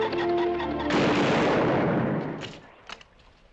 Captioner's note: gunshot